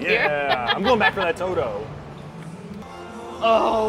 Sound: laughs

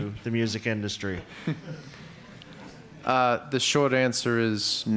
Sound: audience laughs

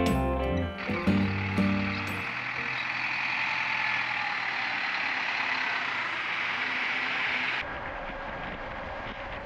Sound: truck noise

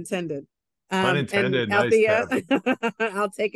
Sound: laughs

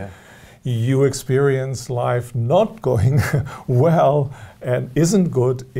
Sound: laughs

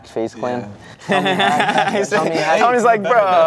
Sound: man laughing

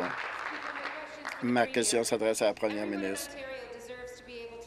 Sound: applause

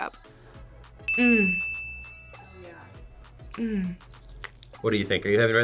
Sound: ding

